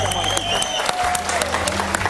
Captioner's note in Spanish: aplausos